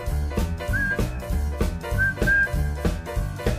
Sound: whistling

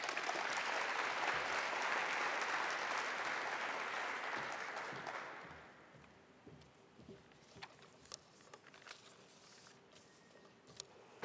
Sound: applause

